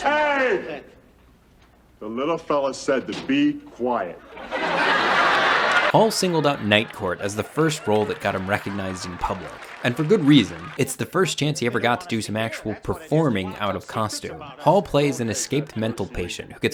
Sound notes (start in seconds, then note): 4.4 audience laughing